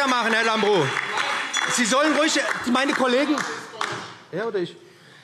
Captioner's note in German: Fortgesetzte Zurufe – Glockenzeichen